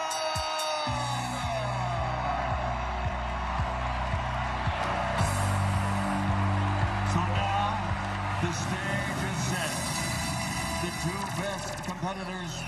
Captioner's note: cheering